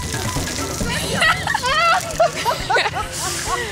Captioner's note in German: Lachen